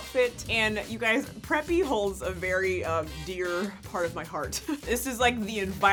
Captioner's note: laughs